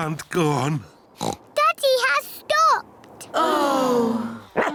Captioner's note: oinks; all sigh; barks